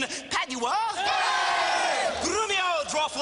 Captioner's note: Crowd cheers Padua